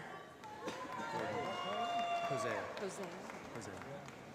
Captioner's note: applause